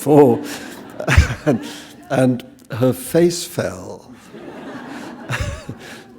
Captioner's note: chuckle